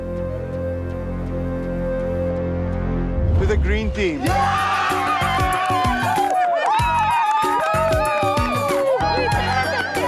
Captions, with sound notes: to the green team. (crowd cheers)